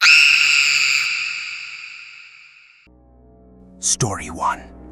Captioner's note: screaming